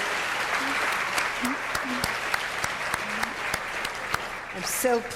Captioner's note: audience applauding